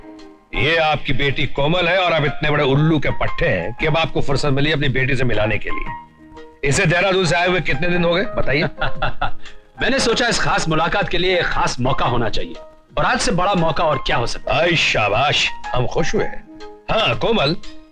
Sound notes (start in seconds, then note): 8.5 laughing